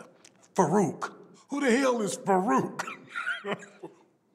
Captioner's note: laugh